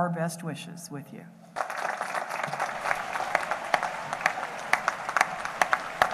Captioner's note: applause